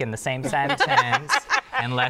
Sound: laughter

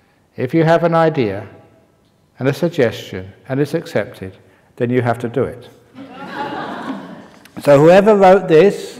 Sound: laughter

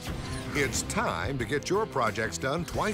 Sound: voiceover

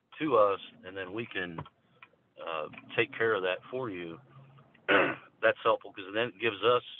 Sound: cough

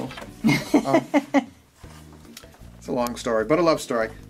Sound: woman laughing

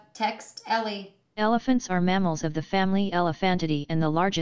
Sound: robot voice

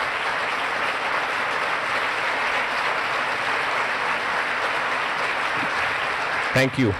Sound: applause

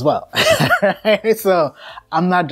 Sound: laughter

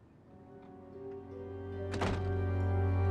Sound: A sound of building door closing

